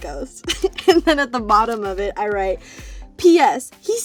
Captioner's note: laughing